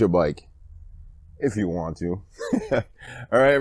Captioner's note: laughing